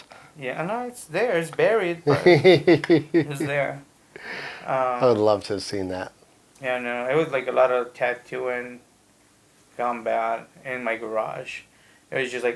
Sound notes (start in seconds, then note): 2.0 laughing